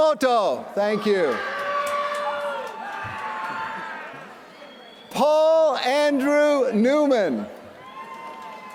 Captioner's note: applause